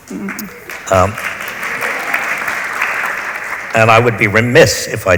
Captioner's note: audience applauds